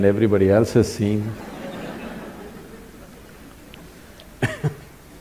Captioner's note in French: rire